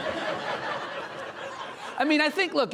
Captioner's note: audience laughing